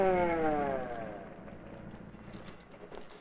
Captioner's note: police siren stops